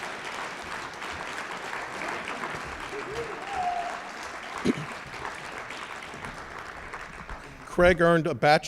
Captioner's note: applause